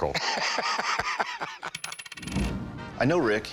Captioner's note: laughter; change clinking